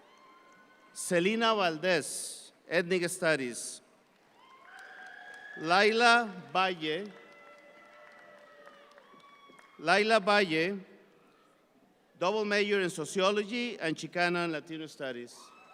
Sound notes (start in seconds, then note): 4.8 audience applauds